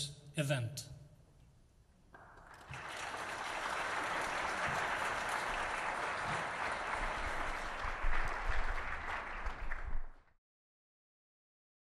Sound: applause

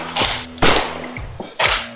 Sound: bang!

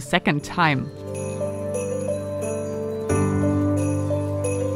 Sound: bells chiming; soft music

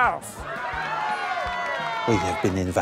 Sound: cheering

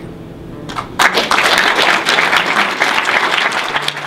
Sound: applause

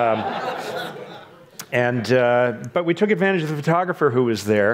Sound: audience laughs

